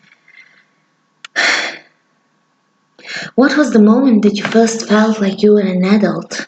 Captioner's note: sigh